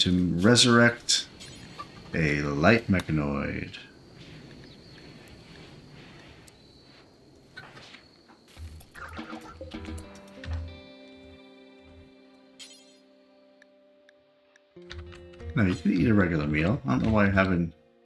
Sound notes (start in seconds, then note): 3.6 silence